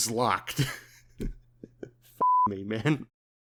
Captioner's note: gross laughter